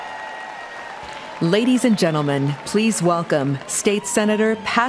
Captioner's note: cheering and applause